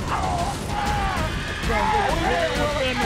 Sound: yelling in pain

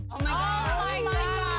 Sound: exclamation

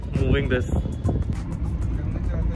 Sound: car engine roaring

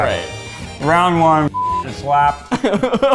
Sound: beep; laughing

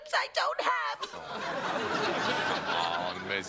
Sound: laughter

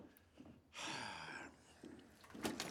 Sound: sighs

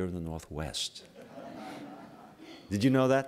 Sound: laughter

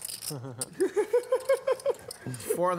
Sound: laughs

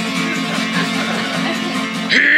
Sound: giggling

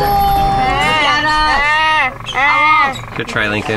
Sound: imitating bird noises

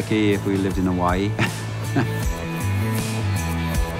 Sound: laughs

